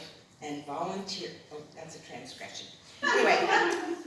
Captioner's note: laughter